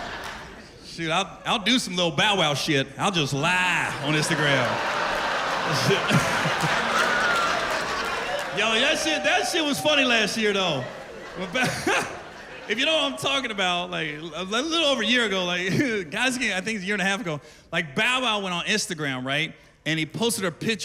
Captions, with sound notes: [laughter] Shit, I'll do some Lil' Bow Wow shit. -I'll just lie on Instagram. -[laughter, exclaims] Yo, that shit--that shit was funny last year, though. When Bo--[laughs] If you don't know what I'm talking about, like, a little over a year ago, like-- Actually, I think it was a year and a half ago. Like, Bow Wow went on Instagram, right?